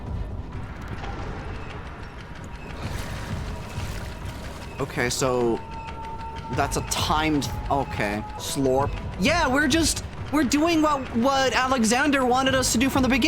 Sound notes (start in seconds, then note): 0.8 mechanism ticks down; 2.8 watery growl